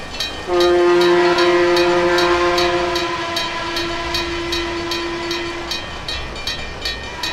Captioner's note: PRR S1 airhorn, N&W Y6B whistle; railroad crossing ringing; N&W Y6B whistle